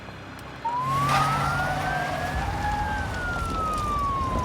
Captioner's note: sirens